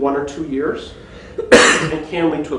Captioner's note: coughing